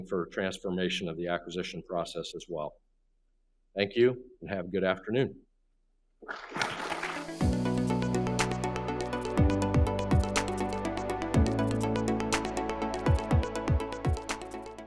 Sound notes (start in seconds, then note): 6.3 clapping; 7.2 instrumental music